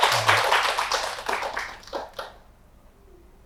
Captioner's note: applause